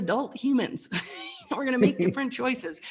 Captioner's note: chuckles